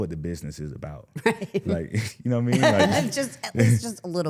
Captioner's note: laughs